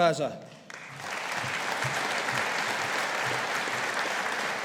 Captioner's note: audience applauding